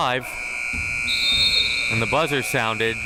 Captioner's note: buzzer sounding; whistle chirping